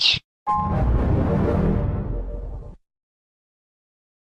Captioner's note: 3D Shadow Windows XP Shutdown Sound